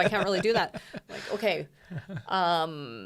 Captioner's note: laughs